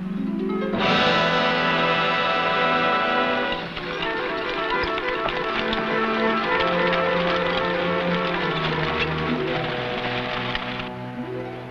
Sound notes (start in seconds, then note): 0.1 dramatic music; 5.1 horse hooves pattering